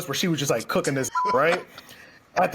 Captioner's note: beep